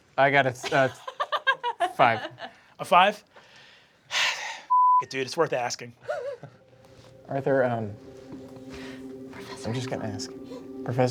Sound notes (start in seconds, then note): 0.6 laughing; 4.7 beeping; 6.0 sighing; 8.2 soft choral music